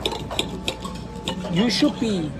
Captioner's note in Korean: 쓱싹쓱싹